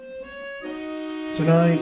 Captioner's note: none